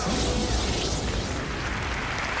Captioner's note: applause